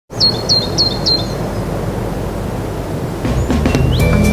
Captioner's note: sound of bird chirping